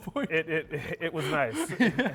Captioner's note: laughing